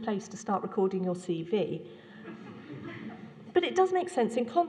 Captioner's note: laughter